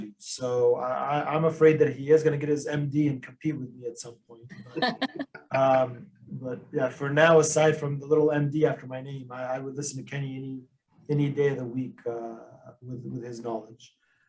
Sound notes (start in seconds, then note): 5.4 laugh